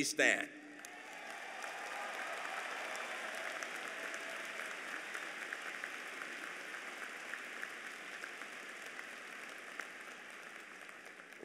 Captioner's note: applause